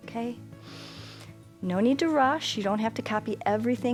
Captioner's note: inhales